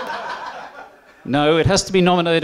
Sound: laughter

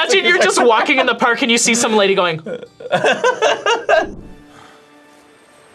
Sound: laughs

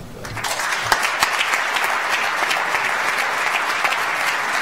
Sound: audience applauds

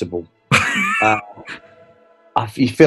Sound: chuckling

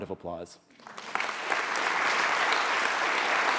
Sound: applause

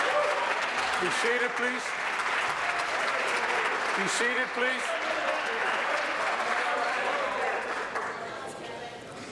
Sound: applause

